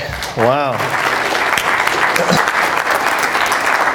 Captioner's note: applause